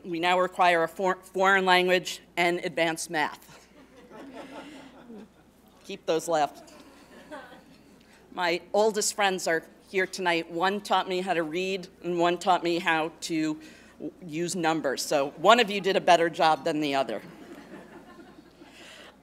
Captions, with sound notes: we now require a foreign language and advanced math. [LAUGHTER] Keep those laughs. My oldest friends are here tonight. One taught me how to read, and one taught me how to use numbers. So one of you did a better job than the other.